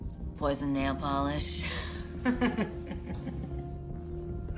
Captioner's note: laughs